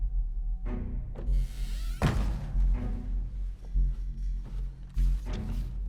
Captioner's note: tense string music; door creaks and thuds